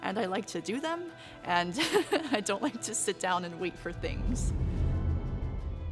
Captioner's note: laughs